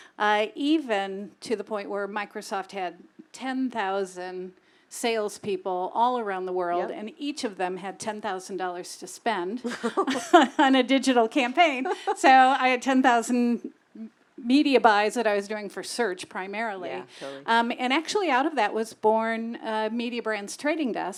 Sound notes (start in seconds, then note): 9.6 laugh